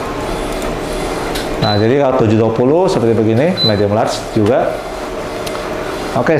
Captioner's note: printer machine sound